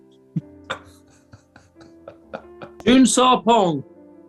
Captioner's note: chuckling